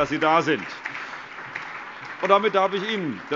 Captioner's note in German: Allgemeiner Beifall